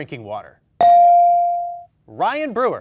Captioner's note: bell dings